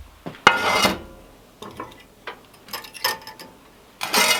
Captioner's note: metal scraping